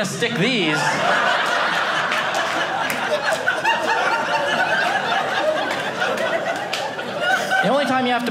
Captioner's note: audience laughing